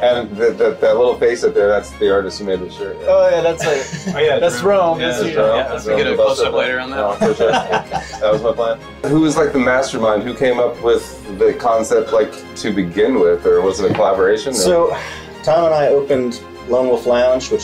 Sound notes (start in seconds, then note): 4.2 chattering in the background